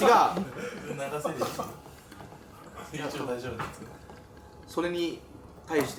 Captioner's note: laughs